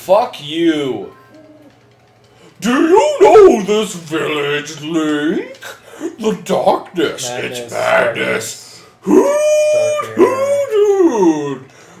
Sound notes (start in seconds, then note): 2.1 in a mocking voice